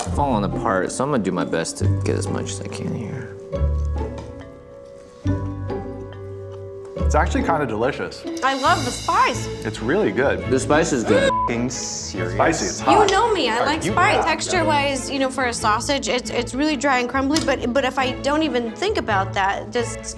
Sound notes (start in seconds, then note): 11.2 beep